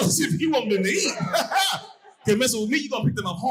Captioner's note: audience laughing